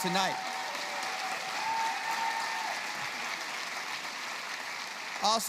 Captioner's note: applause